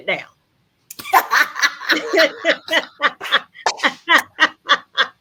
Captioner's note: laughs